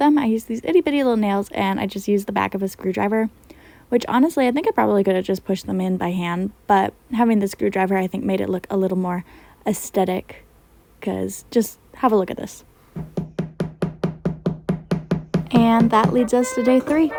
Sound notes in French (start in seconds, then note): 15.0 le clou étant martelé; 16.0 trompette